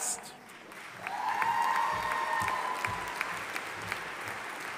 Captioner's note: audience applauding